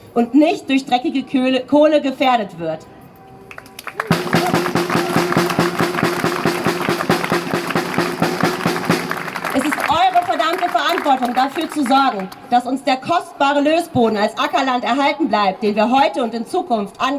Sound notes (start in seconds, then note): 3.6 drumming applause